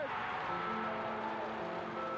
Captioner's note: crowd cheering